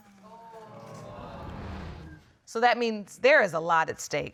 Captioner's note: audience exclaims